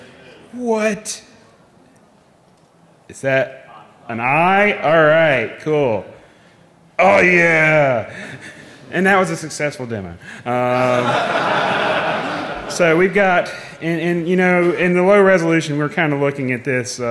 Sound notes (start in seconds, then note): 10.5 laughing